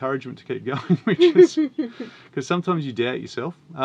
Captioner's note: laughs